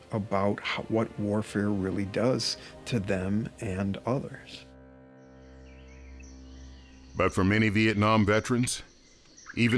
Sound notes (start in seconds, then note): 5.8 birds chirping